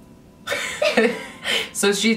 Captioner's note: laughs